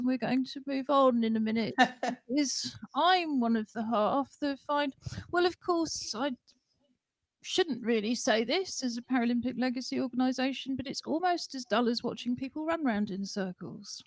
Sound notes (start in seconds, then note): 1.7 laughter